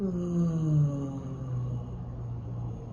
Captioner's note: sighs